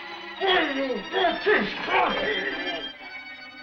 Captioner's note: muffled shouting